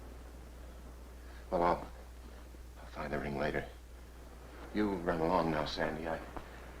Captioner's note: none